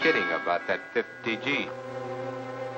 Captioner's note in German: Es klingelt